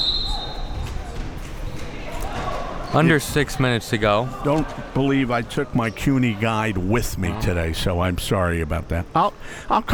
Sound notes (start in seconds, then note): 0.0 whistle blowing; 1.2 spectators chattering